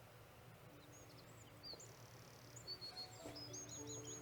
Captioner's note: birds sing